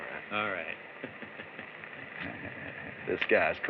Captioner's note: chuckles